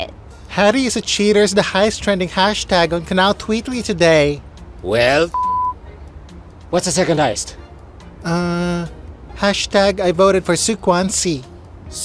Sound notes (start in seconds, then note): none